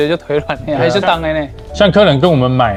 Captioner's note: taiwanese dialect